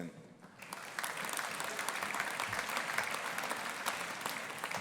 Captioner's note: audience applauding